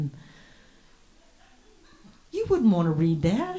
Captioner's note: audience laughs